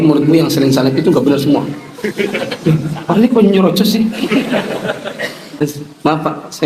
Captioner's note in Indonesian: tertawa